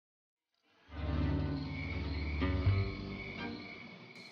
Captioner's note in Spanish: Grillos